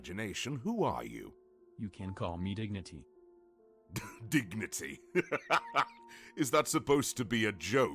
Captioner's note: chuckle